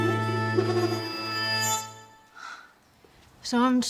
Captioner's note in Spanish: Berta suspira